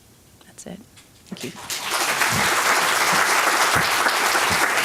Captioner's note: applause